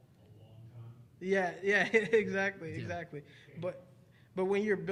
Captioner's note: chuckling